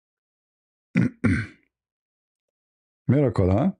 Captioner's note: berdehem